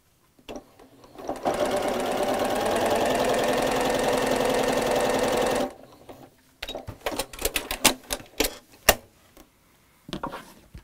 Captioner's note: sewing Machine Sounds